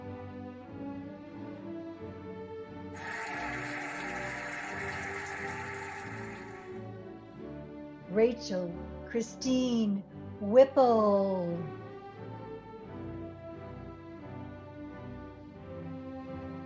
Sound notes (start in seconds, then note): 2.9 cheering and applauding; 13.8 cheerful music